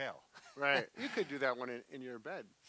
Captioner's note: laughs